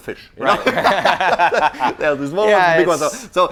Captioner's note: laughter